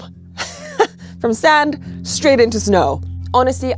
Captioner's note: laughs